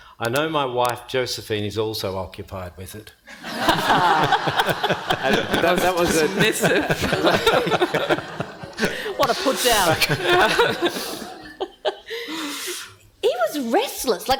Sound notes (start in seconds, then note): 3.1 panel and audience laughing; 11.0 laughing continues